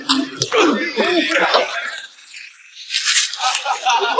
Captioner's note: grunting; spectator laughing